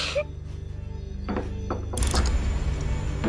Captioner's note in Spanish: Sollozos